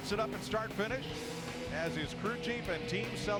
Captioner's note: engine roar